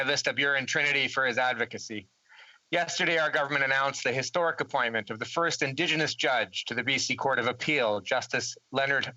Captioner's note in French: voix de l'interprète